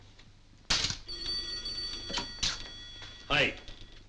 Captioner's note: beads clacking; phone ringing